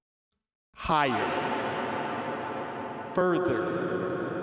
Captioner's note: echoing